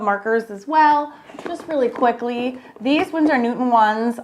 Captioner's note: markers clacking